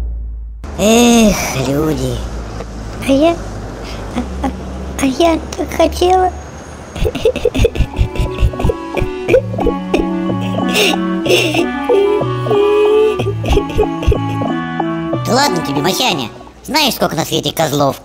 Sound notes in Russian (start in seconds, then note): 7.0 плачет